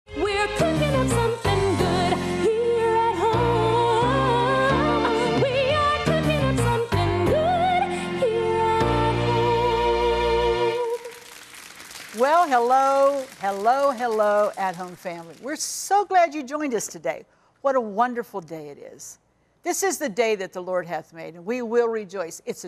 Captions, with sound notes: We are cooking up something good here at home. [ Clapping ] >> Well, hello. Hello. Hello, At Home family. We're so glad you joined us today. What a wonderful day it is. This is the day that the Lord hath made, and we will rejoice.